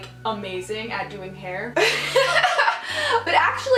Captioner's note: laughs